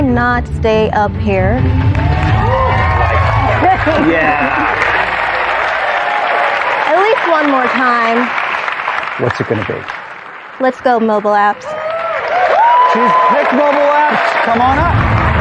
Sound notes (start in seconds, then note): 3.2 chuckles; 11.4 cheering and applause